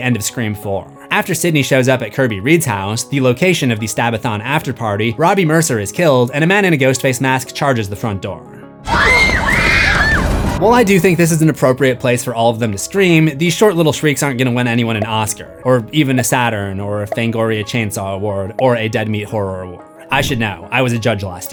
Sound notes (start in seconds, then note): 8.8 screams